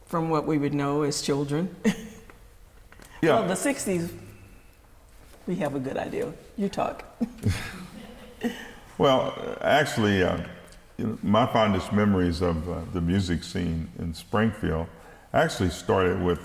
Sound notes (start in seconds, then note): 2.7 laughs; 7.2 chuckles